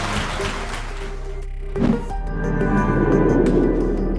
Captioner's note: applause